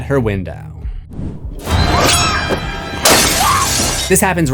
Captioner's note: screams